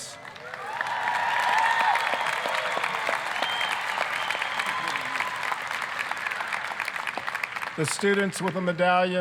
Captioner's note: applause, cheering